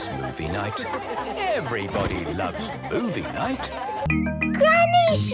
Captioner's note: laughter